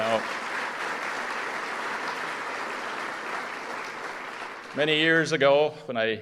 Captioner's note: applause